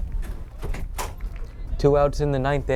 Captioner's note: door closes